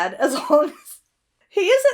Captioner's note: Hana breaks into laughter